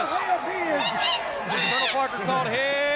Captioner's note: crowd chatter